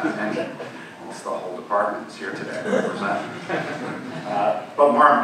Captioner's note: audience laughing